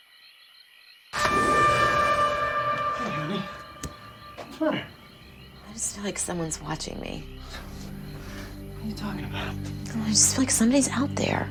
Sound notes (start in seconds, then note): none